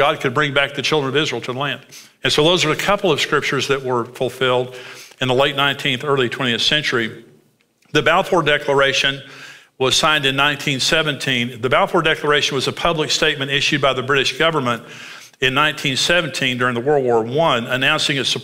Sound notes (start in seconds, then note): none